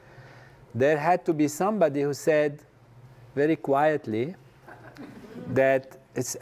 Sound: laugh

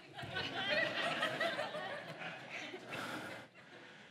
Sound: congregation laughs

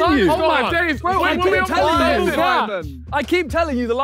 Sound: men chattering

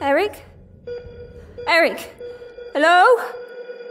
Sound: beeping intensifies

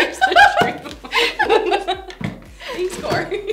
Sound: both laughing

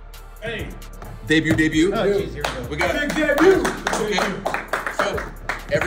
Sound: applause

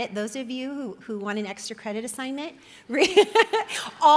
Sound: laughs

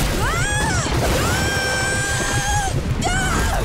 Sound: screaming

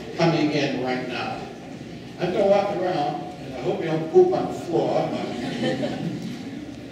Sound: laughing

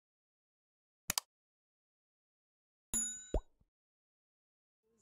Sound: mouse clicks

